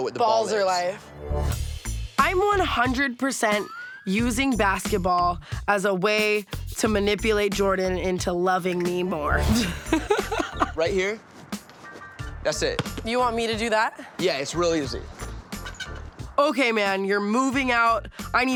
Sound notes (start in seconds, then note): 9.4 laughs